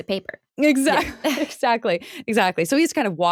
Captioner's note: laughing